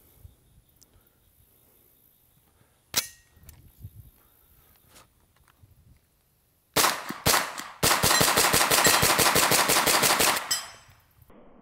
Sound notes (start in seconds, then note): 3.0 gun cocking; 6.8 gun firing repeatedly and rapidly